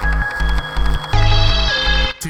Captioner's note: engine revving